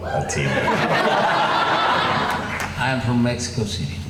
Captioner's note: laughing